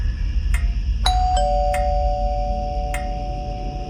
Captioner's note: doorbell, scary music, crickets; scary music, crickets